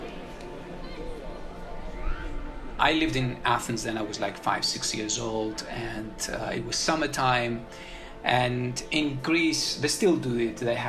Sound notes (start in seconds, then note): 2.8 soundbite of archived recording; 5.0 soundbite of children playing